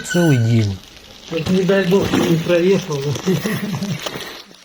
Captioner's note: laughing